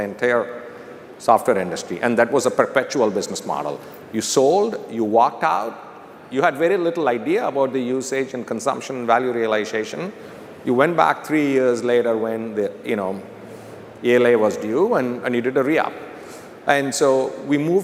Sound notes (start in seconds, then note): none